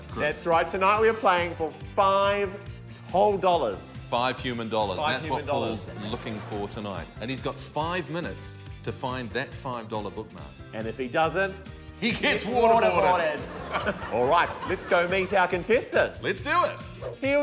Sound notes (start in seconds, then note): 12.8 laughs